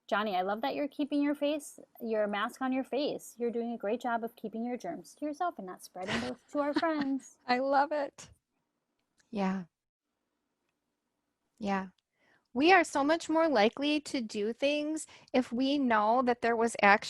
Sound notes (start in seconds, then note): 6.6 laughs